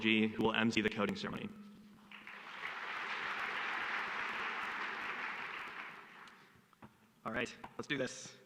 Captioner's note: applause